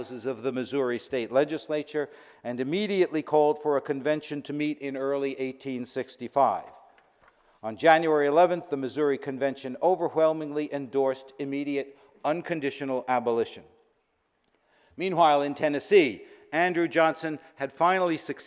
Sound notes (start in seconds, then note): none